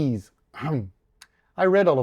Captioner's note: clears throat